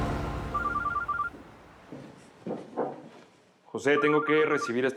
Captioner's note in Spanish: suena el celular